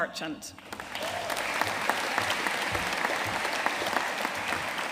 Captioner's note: audience applauding